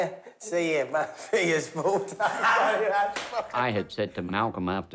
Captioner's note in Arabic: يضحك